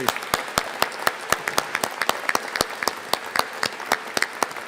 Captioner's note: audience applauding